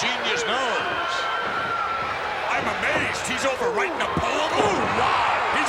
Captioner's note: applause